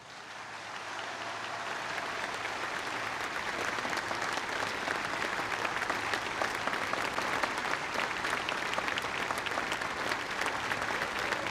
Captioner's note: applause